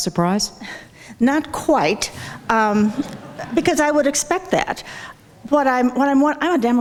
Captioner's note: audience laughs